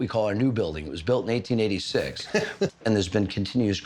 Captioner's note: laughs